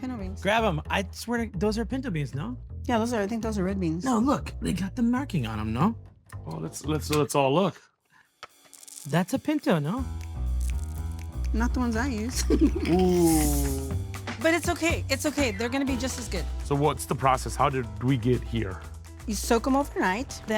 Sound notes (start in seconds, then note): 12.3 laughs; 13.1 inhales sharply; 19.9 beans bubbling